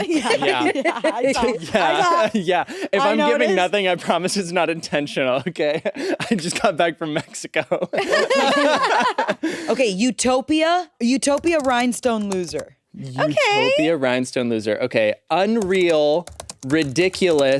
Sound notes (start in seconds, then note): 7.8 everyone laughs